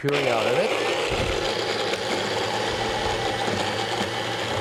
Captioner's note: food processor whirs